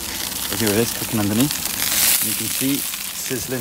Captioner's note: chicken sizzling